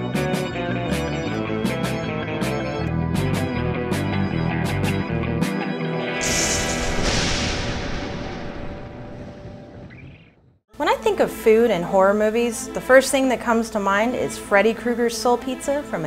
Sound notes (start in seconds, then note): 6.2 thunder crashing